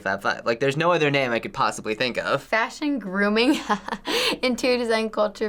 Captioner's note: chuckles